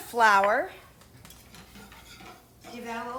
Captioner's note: pot scraping